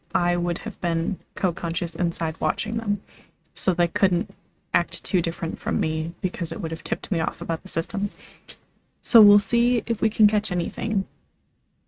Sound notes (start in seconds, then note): none